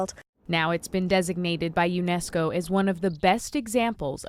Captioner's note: voice-over